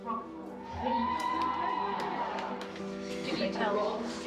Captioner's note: audience whooping